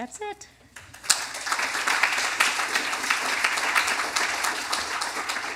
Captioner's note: applause